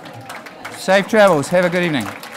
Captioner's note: applauding